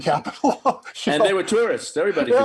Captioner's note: chuckling